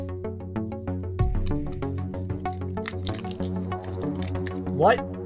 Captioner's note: theme music plays; fumbling is heard over theme song